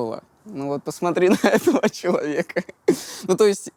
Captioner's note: laughs